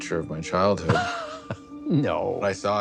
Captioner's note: scoffs